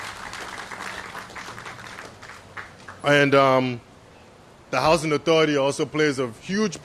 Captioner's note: applause